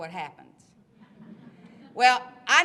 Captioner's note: laughter